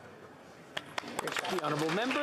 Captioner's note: speaking alternate language